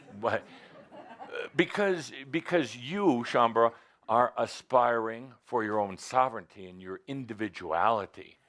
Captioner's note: laughter